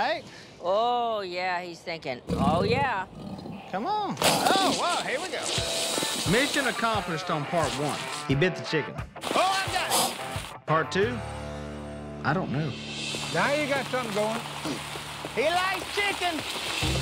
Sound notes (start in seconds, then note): 2.3 growling; 9.3 hissing